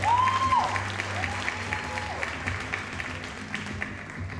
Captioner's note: audience cheering; audience applauding